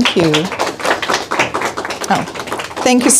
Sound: all applauding

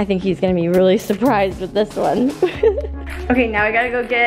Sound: laughs

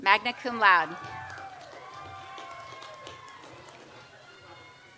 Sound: audience applauds

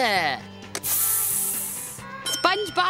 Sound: sizzling sound

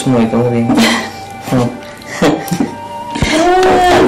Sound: both chuckle

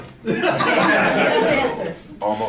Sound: laughing

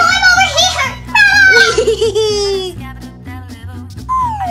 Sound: Rubble chuckling; fast music

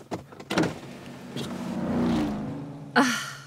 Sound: car speeding

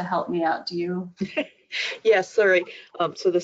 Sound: laughing

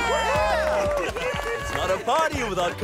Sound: cheering

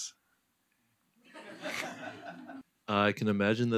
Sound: laughter

